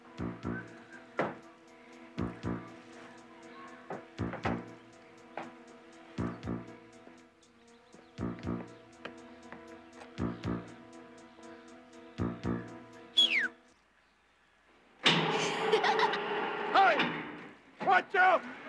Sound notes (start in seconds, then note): 0.2 suspenseful music; 13.1 Pop whistles; 15.0 crane buzzing; 15.4 Dee laughs